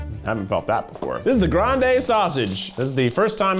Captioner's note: rustling